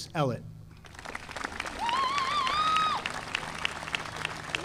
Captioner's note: audience applauding